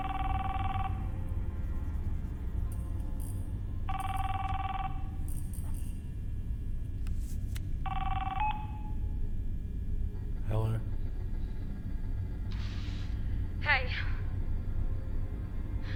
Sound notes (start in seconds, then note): 7.8 phone answered; 13.5 deep breath